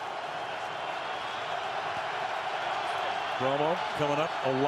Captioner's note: crowd cheering